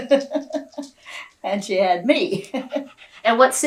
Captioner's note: laughs